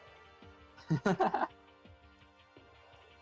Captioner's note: laughs